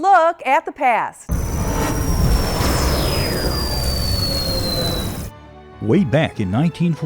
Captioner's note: sound Effects